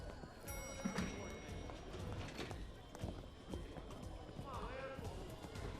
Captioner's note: elevator door dinging